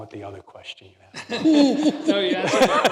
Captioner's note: laughter